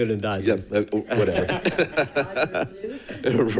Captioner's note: people laughing